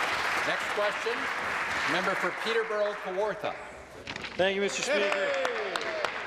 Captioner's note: applause